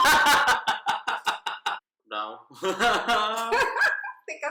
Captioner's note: laughter